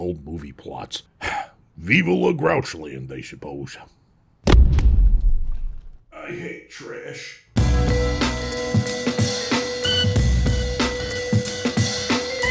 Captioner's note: sigh